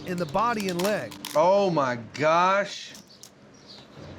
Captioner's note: cracking